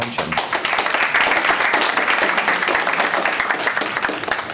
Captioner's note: applause